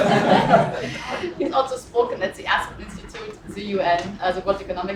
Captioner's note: laugh